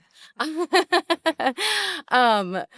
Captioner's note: laughs